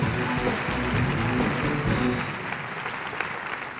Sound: applause

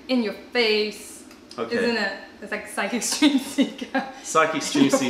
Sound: laughter

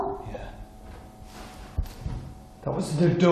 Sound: louder thud

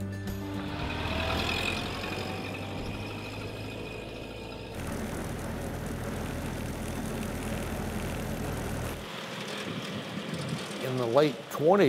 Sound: old car driving past

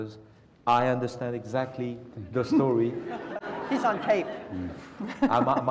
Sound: laugh

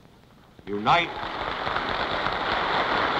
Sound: applause

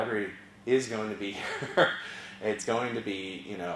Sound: laugh

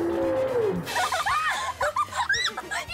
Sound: laughing

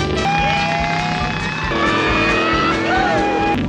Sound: hooting

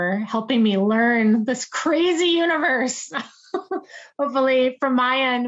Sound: laughs

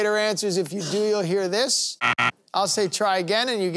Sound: buzzer sounding

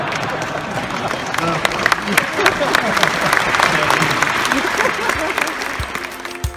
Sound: audience laughing, applauding

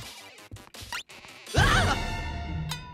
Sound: screaming

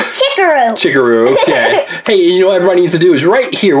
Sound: assistant laughs

